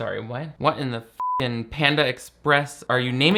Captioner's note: beep